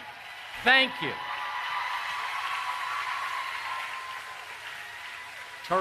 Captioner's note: applause